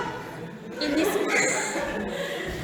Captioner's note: 웃음